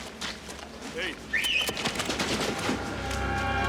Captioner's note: whistles